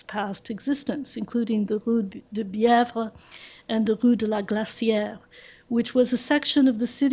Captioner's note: french